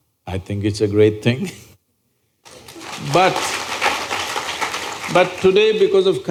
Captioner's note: applause